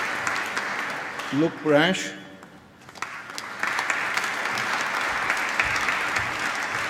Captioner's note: applause